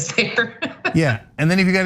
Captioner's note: laugh